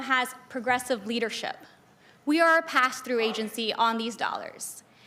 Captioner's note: crowd Noise